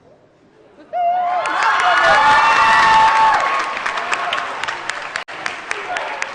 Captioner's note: cheering & Applause